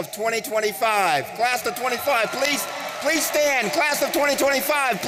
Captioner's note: audience cheering